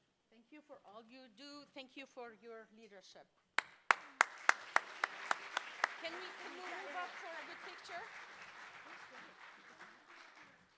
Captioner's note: clapping